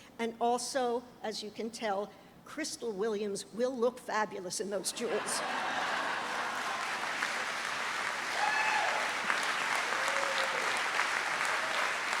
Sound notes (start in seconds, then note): 5.0 trustees and audience laugh; 8.1 audience cheers and applauds